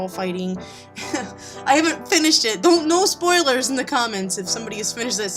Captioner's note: laughs nervously